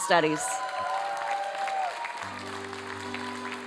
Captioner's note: applause